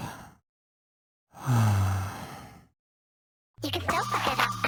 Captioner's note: despondent sigh